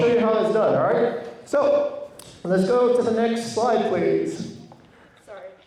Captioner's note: none